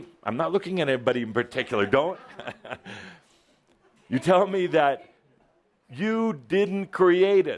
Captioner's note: Adamus chuckles